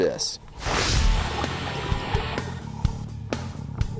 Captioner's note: swooshing; heavy metal instrumental